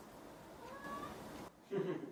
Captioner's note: meow